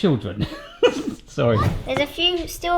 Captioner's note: laughing